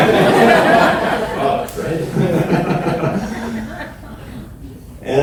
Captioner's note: audience laughs